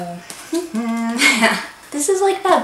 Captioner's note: laughs